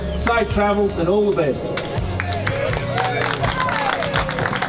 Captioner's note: cheers